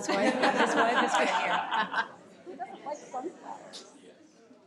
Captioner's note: audience laughing